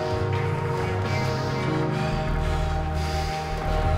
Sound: breathing heavily

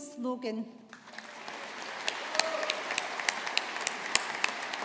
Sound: audience applauding

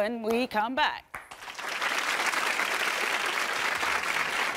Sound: audience applauds

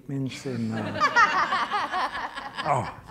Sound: audience laughing

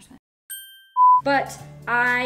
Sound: bell dings

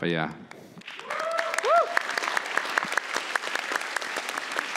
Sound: applause

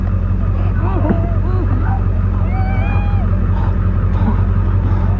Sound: heavy breathing

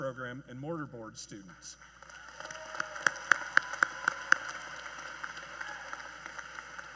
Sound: cheers and Applause

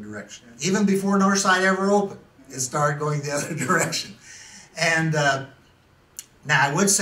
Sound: laughs

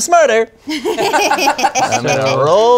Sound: all laugh

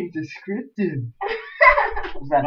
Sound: uncertain Laugh

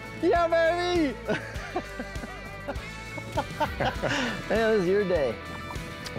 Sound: laughing

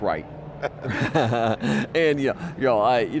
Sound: laughs

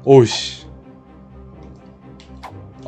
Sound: none

